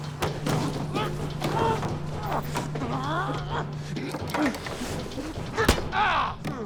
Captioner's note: grunting; grunting; Franks yells; hits